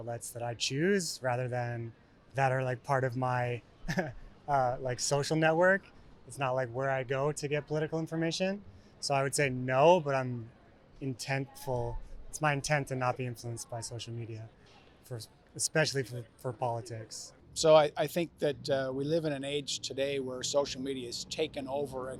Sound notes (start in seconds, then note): 3.6 laugh